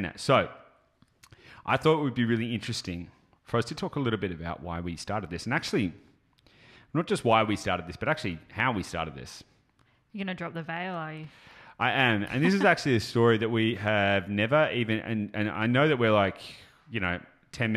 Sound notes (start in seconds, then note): 12.2 chuckles